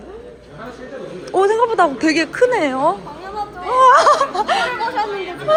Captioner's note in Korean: 덜덜